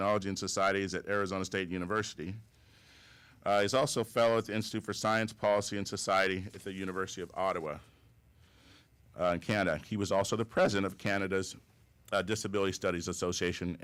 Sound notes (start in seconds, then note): none